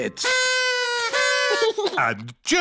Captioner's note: blowing